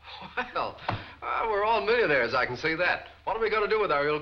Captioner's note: laughs